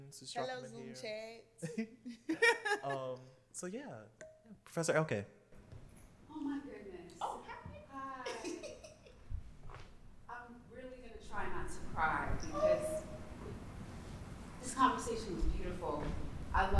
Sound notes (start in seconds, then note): 1.6 laughter; 8.2 laughs